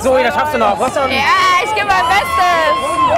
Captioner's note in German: Jubel